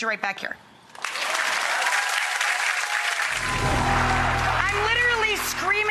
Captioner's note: audience applauds